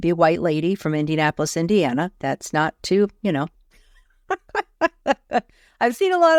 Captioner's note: laughs